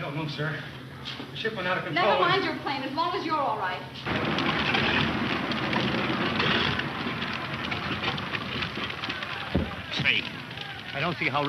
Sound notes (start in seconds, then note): 4.0 plane engine clattering; 8.7 people chattering